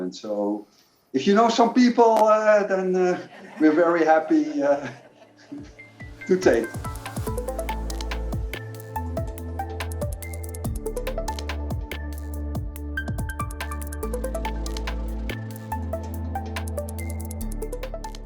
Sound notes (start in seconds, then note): 3.1 participants laughing; 6.9 bright music